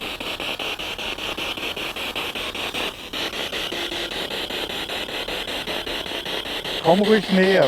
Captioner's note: noise of the spiritbox in the background